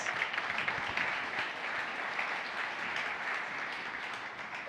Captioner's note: audience applauds